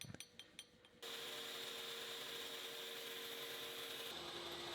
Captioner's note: machine whirring